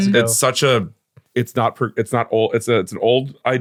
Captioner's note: stammering